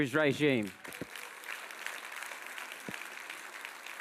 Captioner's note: audience applauds